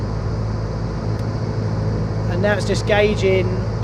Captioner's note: plane humming